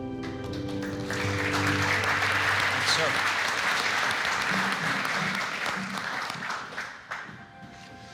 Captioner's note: applause